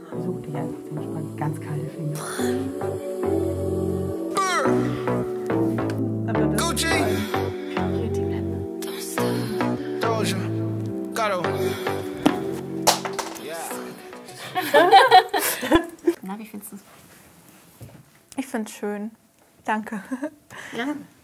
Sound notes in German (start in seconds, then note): 14.2 Lachen